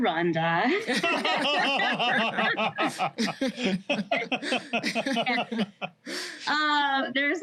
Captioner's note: laughter